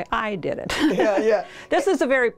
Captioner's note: laughter